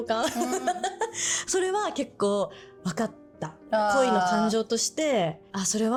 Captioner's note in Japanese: 笑い